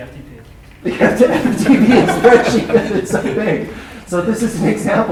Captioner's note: laughter